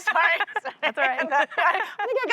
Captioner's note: laughter